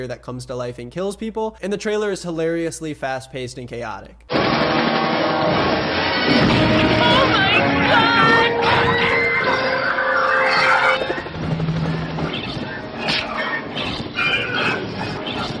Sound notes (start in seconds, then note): 4.4 guns bang; 4.4 powerful music; 8.6 people scream; 11.2 helicopter blades whir; 13.1 hand slaps